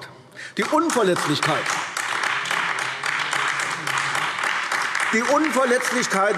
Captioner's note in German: Beifall AfD